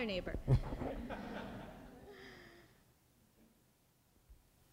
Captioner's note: laughter; speaking in Spanish